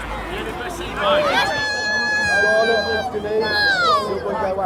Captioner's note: anguished cries